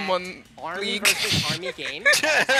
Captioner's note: laughter